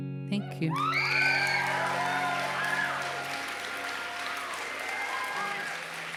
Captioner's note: applause